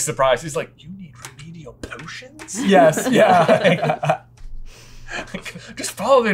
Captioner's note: laughter